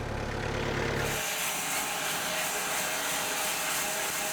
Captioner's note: saw whirs